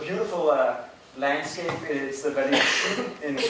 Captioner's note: drowned by coughing